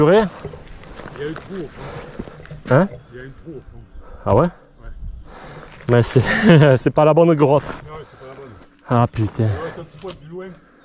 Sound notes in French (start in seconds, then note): 4.9 grognement